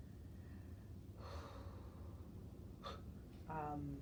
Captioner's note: exhaling slowly